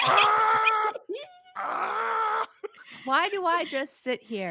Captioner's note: screeches